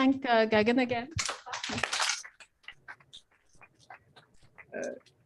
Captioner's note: applause